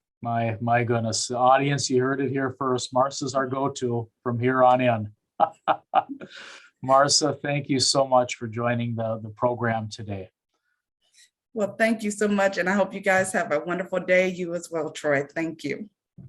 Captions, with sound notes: My goodness, the audience you heard it here first, Marsa is our go-to from here on in. [Laughing] Marsa, thank you so much for joining the program today. - Well, thank you so much and I hope you guys have a wonderful day, you as well Troy, thank you.